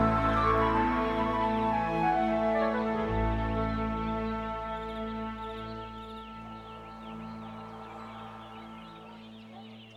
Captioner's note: birds chirping